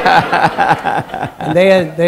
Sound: laughter

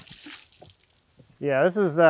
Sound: water splashing

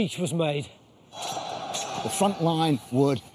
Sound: men shouting; suspenseful music

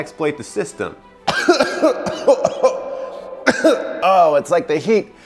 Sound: interviewee coughing

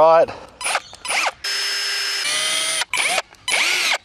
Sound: drilling

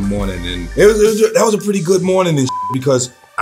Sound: beeps

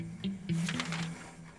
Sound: pages rustle

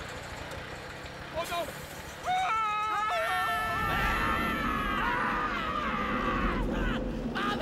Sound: screaming

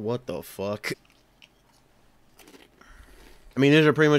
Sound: chewing ensues

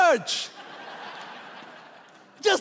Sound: laughing

